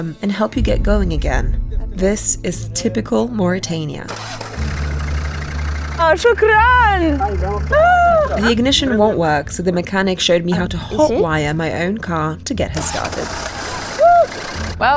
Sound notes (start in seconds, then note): 4.0 loud sound of car trying to start; 6.3 speaks in foreign language